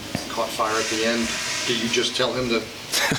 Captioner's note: toilet flushing